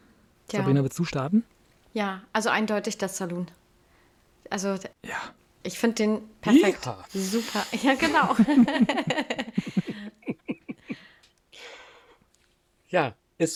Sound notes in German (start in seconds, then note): 10.7 gelächter